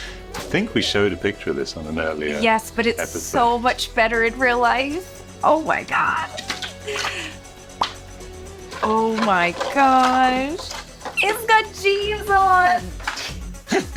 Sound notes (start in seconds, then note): 7.7 plastic pops